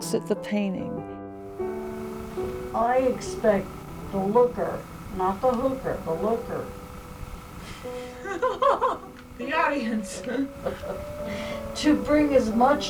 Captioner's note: laughs